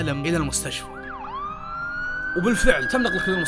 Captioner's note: ambulance sirens